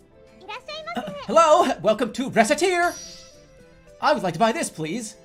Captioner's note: clears throat, energetic voice